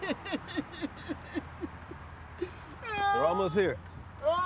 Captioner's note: sobbing